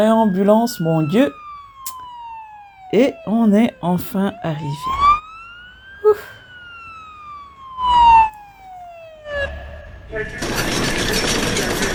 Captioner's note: laughter